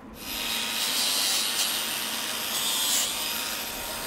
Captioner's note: grinder whirring